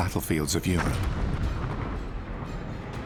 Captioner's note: explosion